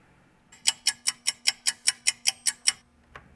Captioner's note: ticking clock